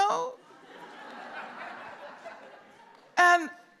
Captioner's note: laughter